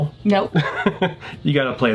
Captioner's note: laughing